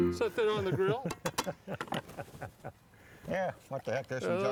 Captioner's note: piano plays; laughs